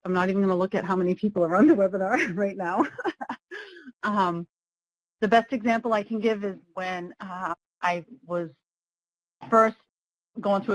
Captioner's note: laughs